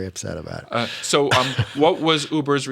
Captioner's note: laughter